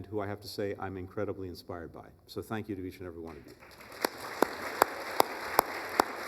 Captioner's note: applause